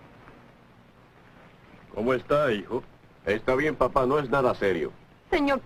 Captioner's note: none